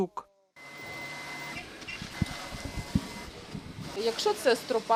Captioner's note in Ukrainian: Звук обладнання